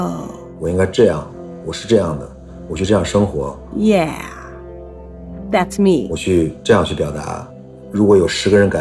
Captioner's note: speaking Mandarin Chinese